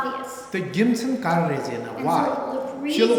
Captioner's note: speaking tibetan